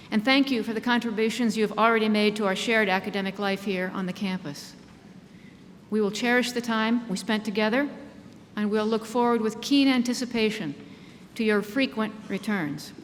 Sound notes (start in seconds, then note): none